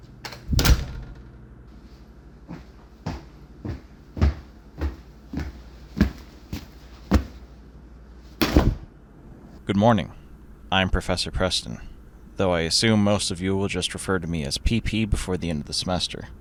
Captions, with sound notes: [Door slams] [Heavy footsteps slowly approach] [LOUD THUD] Good morning. I am Professor Preston, though I assume most of you will just refer to me as "pee pee" before the end of the semester.